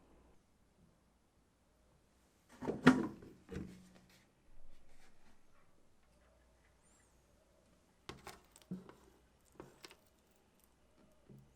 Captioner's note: folding